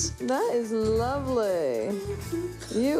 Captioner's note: humming